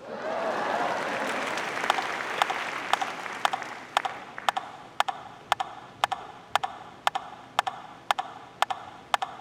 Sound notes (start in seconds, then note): 1.8 audience applauding; 2.8 rhythmic tapping